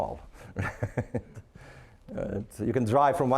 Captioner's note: laughing